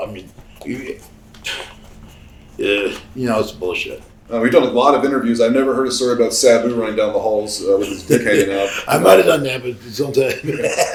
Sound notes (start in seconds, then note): 0.4 Sabu scoffs; 7.8 Sabu chuckles